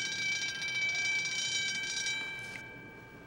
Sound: bell rings

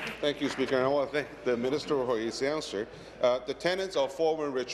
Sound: applause

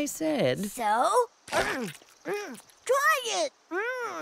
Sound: difficult gulp, gagging

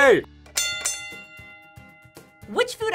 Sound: bell rings

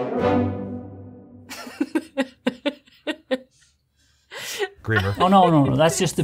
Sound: laughing

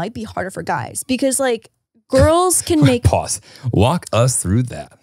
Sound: chuckles

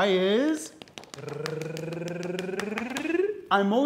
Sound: tapping; trilling

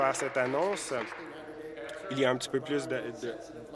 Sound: applause

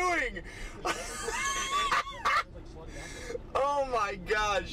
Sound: man laughing

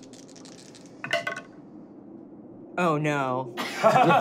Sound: dice rolling

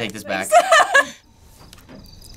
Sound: laughs

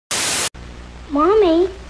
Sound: TV static buzzes

